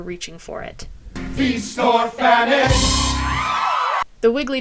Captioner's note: musical sting; cheering